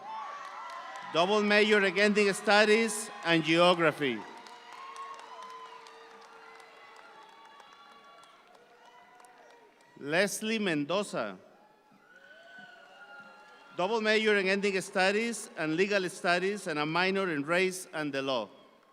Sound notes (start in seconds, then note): 0.2 audience applauds; 4.9 audience applause continues; 12.1 audience applauds